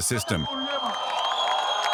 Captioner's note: cheering, applause